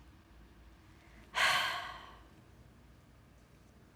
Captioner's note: sighs